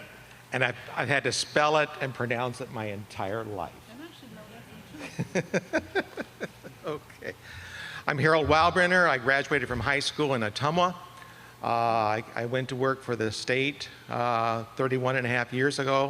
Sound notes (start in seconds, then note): 5.0 laughter